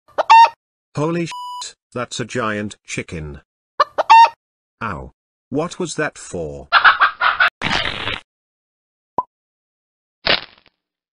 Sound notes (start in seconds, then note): 0.1 cluck; 3.8 cluck; 6.7 angry clucking; 7.7 crunch; 10.2 crack